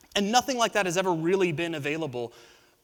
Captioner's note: none